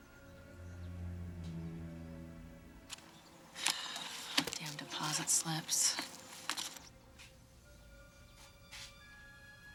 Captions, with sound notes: - (sighs) Damn deposit slips. (tense music)